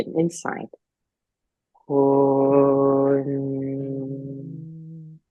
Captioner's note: humming